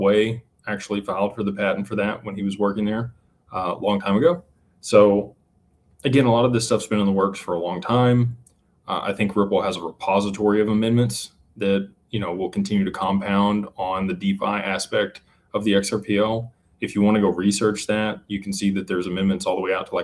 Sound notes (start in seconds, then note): none